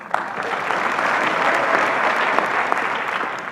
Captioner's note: applause